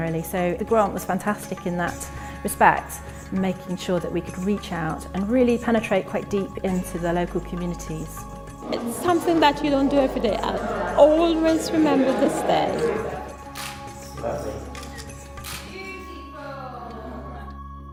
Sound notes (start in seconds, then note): 15.4 camera snapping; 17.7 soft music